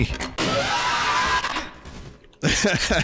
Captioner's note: distorted scream; laughs